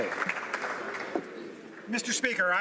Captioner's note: some Applause